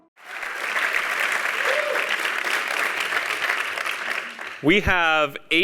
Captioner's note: applause